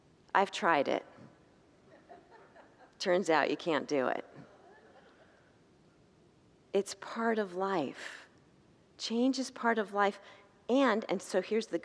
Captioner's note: congregants laugh